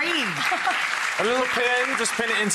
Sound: audience clapping

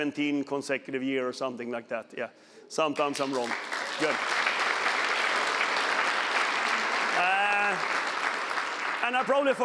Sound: applause

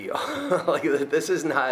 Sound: laughs

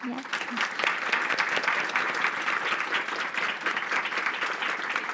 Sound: attendees applauding

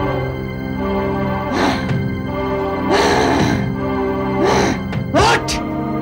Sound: grunts

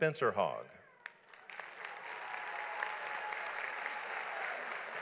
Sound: audience applauds

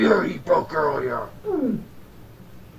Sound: Danno gulping

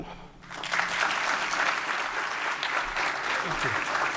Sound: applause

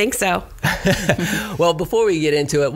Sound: laughs

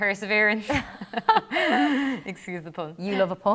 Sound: laughter

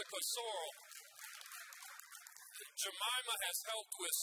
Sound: audience applauds

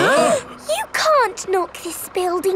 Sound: all gasping

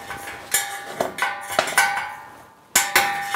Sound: metal rattling

